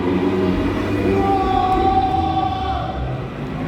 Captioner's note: screaming